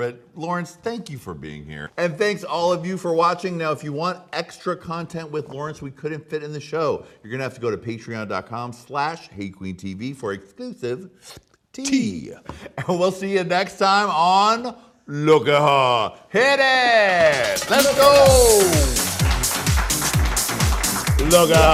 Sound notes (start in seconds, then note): 11.1 slurps; 18.5 upbeat music